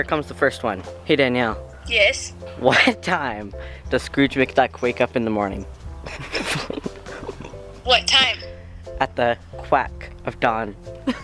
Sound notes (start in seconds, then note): 6.0 snickering; 11.0 laughing